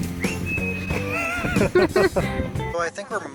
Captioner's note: laughter